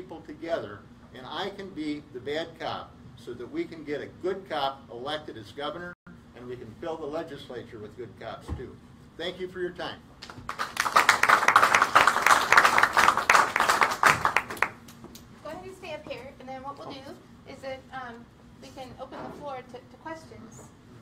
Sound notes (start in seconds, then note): 10.2 applause